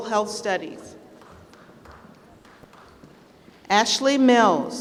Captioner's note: applause